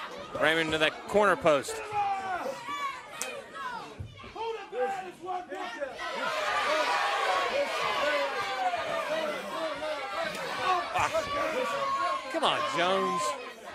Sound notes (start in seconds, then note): 2.0 crowd chatter